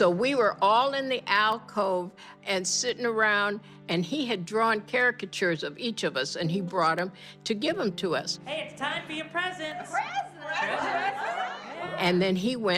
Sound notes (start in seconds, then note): 6.2 soundbite of tv show, "sesame street"